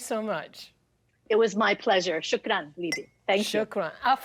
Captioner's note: speaks in Arabic